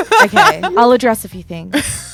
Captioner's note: laughs